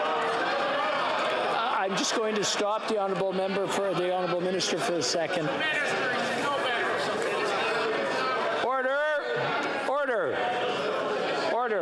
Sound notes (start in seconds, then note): 0.6 yelling